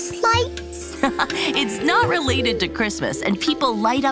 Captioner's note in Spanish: risas